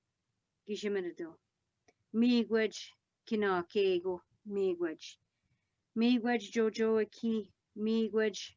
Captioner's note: speaking Algonquin